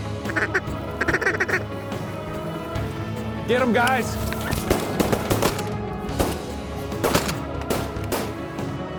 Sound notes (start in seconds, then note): 0.0 duck calls; 4.6 gun shots